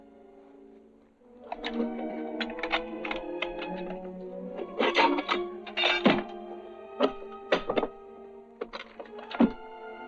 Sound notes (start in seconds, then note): 4.6 metal clanging